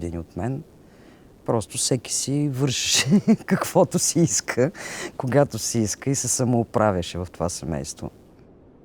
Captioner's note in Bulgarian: смее се